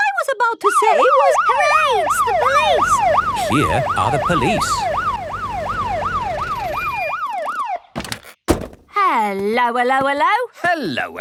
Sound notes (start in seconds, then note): 1.6 siren wailing; 8.1 siren stops